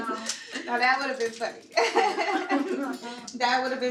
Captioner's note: laughs